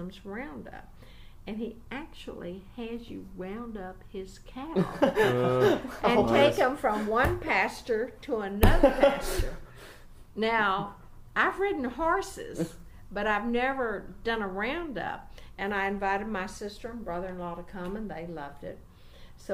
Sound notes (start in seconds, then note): 4.7 interviewers laugh; 6.7 hits table hard; 8.8 hits table hard